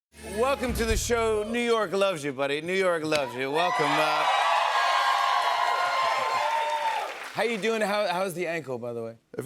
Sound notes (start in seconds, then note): 3.2 cheers and applause